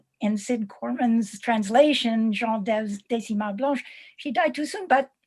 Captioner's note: non-english speech